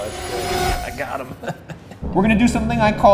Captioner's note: laughing